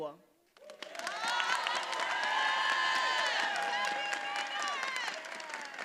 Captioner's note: attendees applauding and cheering